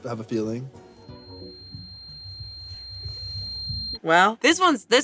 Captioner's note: high-pitched ringing